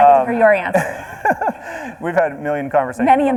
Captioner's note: laughs